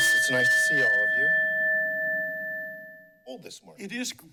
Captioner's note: bell continues ringing; bell rings